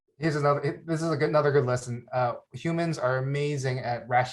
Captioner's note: none